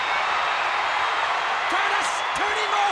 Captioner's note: audience cheers